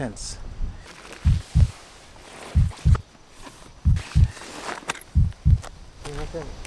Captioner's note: heartbeat